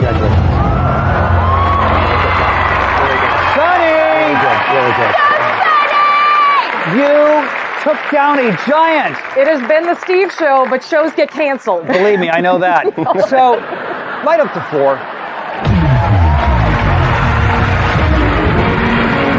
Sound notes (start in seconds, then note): 11.9 all laughing; 15.6 dramatic music